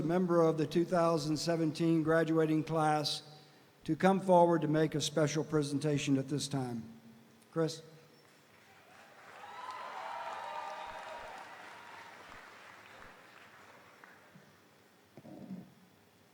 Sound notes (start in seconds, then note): 8.6 audience applauding; 8.7 audience cheering